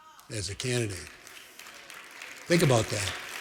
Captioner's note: applause